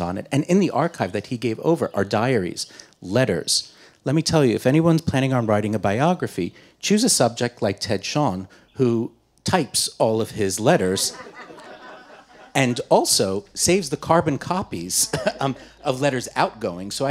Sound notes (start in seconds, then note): 10.9 audience laughing